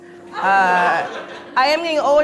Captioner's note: audience laughs